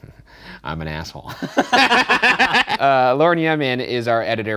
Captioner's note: laughing